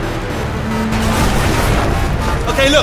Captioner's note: large crash